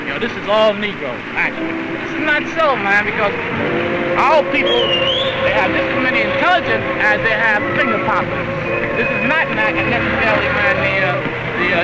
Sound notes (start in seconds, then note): 4.5 loud whistling